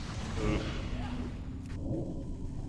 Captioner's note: groans